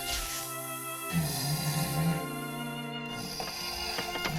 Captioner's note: monstrous groan